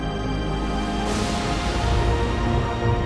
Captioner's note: thunder crashing